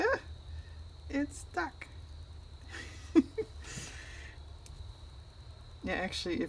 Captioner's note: laughs